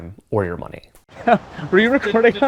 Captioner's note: laughing